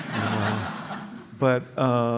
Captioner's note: laughter